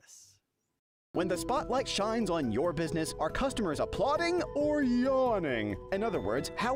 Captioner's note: voiceover